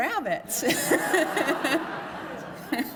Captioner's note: laughter